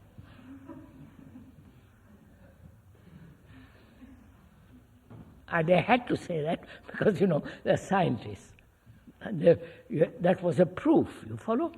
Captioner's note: laughter